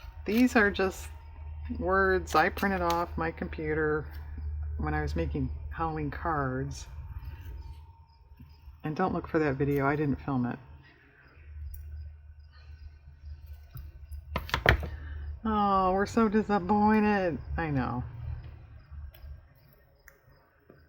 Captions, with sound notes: these are just words i printed off my computer when i was making Halloween cards, and don't look for that video, i didn't film it (sarcastically) oh we're so disappointed i know